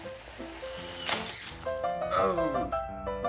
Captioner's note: vrrrrrrrrrr; crash